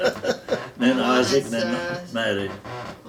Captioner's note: both laughing